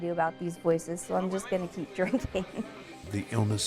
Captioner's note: laughs